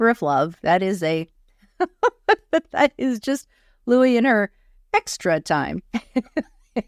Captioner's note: laughs